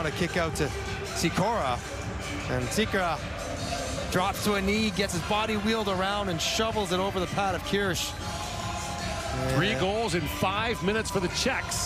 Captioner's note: crowd Reacts; horn